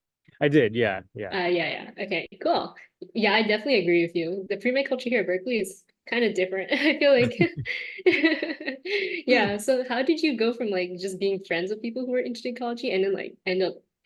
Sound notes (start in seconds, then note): 7.2 laughter